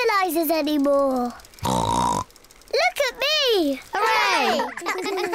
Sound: snorts; all laugh

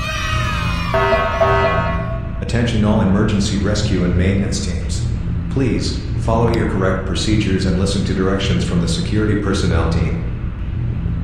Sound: announcement Chime

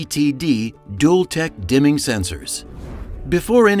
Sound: screen swooshes

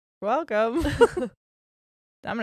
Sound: both laugh

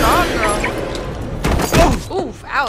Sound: car alarm beeps

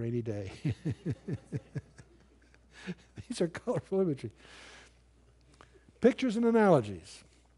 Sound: laughter

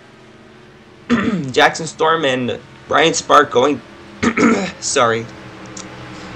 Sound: clears Throat

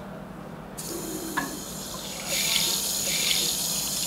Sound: water running

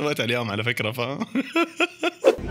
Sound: laughter

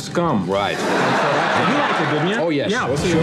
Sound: audience laughs

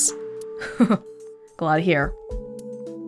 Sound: chuckles

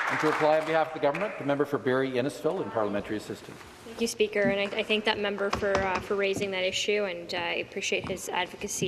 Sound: some Applause

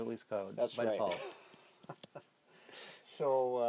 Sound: laughs

